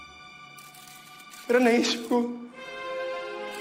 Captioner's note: camera shutters clicking